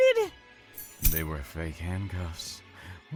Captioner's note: handcuffs click open